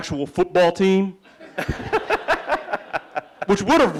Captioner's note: laughing